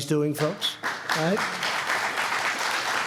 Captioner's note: applause